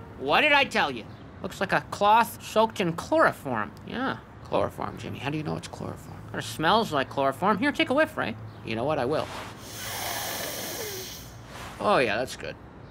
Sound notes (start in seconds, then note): 9.2 sniffing